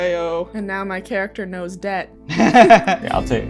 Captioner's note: laughter